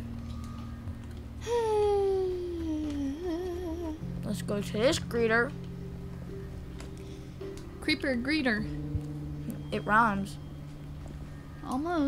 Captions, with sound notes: (sighs) - Let's go to this Greeter. - Creeper Greeter. - It rhymes. - Almost.